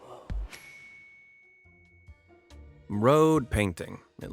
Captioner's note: bell dings